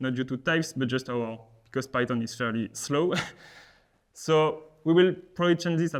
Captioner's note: chuckles